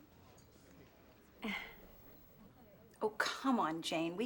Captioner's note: sighs